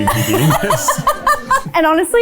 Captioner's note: laughing